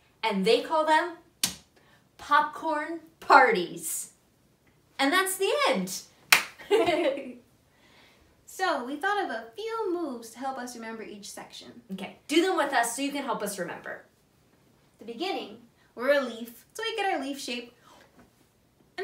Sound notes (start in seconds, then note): 6.3 hands clap; 6.6 both laugh